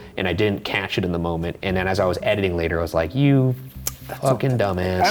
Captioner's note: none